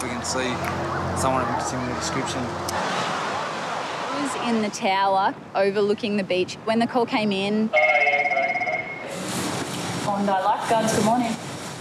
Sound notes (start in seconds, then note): 7.7 phone rings